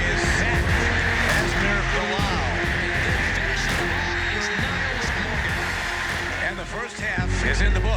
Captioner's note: crowd cheering